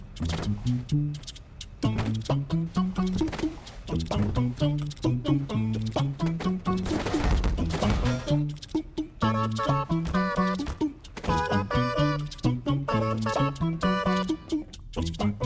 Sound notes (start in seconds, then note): 0.1 objects hitting the ground; 5.6 rapid clanging; 10.0 light impacts